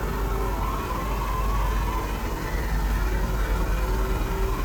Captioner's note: thunder crashing